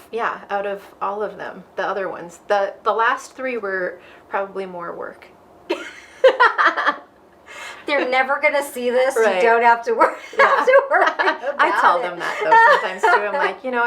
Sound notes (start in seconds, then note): 5.7 both laughing